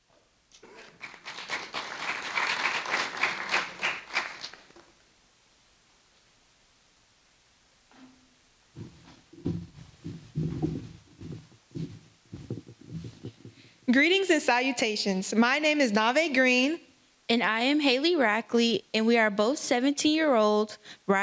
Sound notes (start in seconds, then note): 5.6 applause